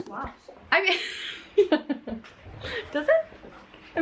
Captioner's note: laughs